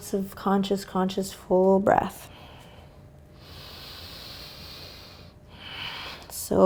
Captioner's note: breathing heavily